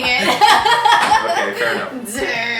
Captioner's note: laughing loudly